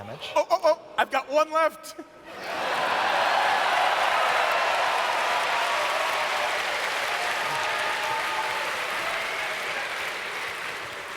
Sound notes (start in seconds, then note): 2.4 audience cheers